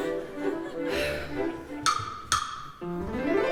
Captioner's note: knock knock